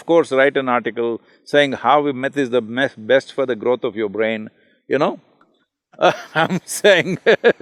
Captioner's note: both laugh